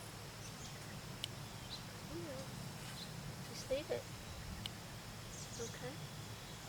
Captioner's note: scissors clipping, chatting with cat